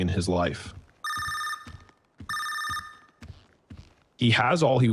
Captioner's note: phone still rings